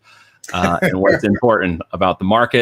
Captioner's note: laughing